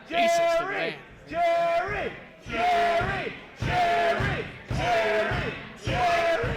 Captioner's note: crowd